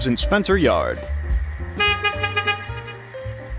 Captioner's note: honk honk